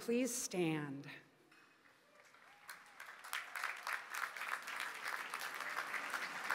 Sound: applause

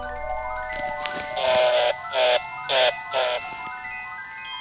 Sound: buzzing

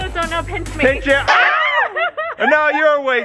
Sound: screaming

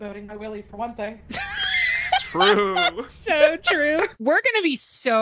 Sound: laughs

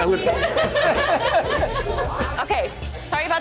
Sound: laughs

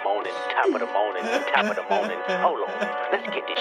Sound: second guy cries in background

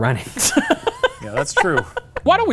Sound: laughing

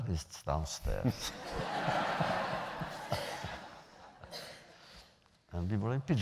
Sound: laughter

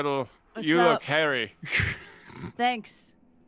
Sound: laughs

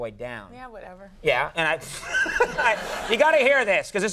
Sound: Conan laughing

